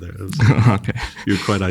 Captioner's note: laughs